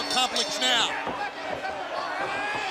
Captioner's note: bell ringing